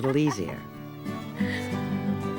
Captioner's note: laughing